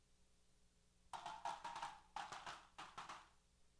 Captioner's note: applause & Cheers